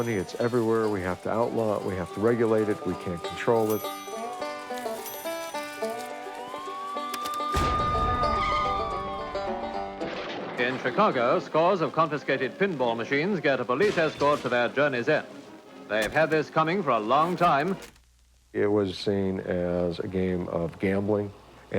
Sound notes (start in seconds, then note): 4.1 cash registers and sirens; 7.8 sirens and tire screech